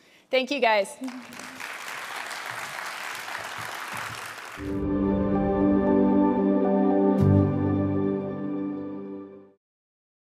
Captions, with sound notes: Thank you guys. (audience applauding) (gentle music)